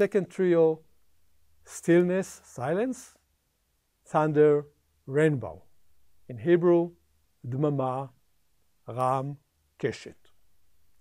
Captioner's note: silence